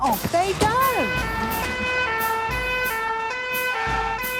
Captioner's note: siren sounding